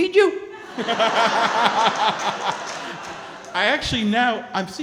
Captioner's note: laughing